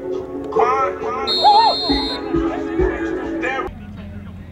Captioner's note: whistle blowing